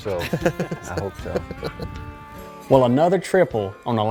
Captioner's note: laughing